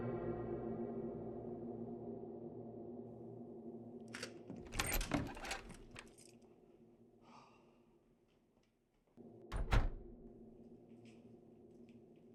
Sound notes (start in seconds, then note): 4.5 door clicks